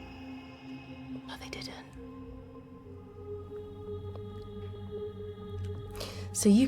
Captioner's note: whispered